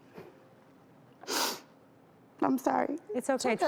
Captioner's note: sniffling